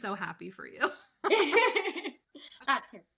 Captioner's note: laughing